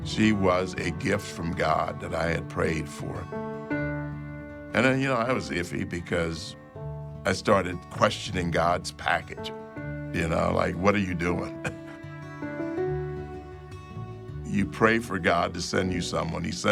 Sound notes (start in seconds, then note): 11.4 chuckles; 12.7 bright music continues